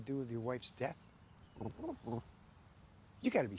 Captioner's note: ben chirps